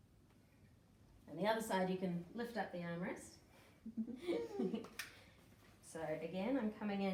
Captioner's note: both laugh